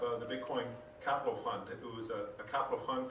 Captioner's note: bell dings